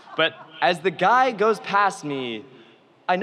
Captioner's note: audience laughs